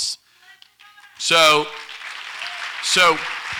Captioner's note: audience applauds